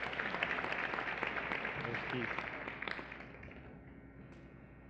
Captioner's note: applause